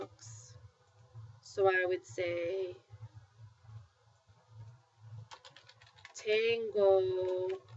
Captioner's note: speaking spanish